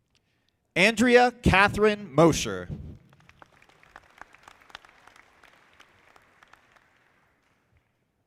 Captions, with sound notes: Andrea Kathryn Mosher. (audience clapping)